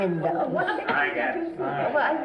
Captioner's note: everyone talking